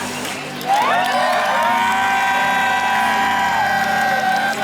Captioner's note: crowd cheers